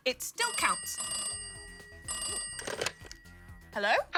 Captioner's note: phone rings